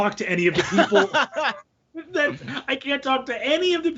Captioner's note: laughing